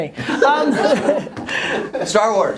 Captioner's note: laughter